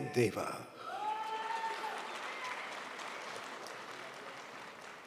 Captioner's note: audience cheering